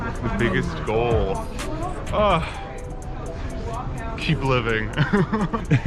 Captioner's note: chuckling